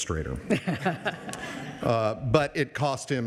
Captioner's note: audience laughs